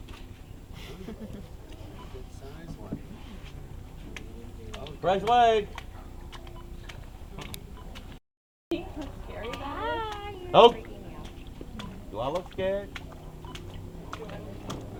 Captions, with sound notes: [Water splashing] Do I look scared